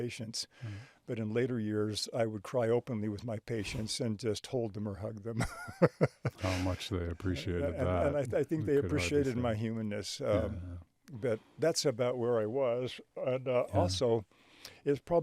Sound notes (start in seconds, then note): 5.3 chuckling